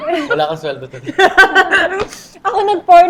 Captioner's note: laughs